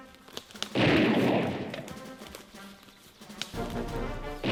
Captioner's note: gunshots bang